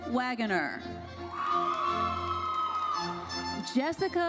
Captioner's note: audience cheering and applauding